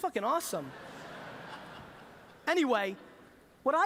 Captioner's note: laughter